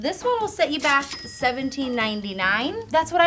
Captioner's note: bell chiming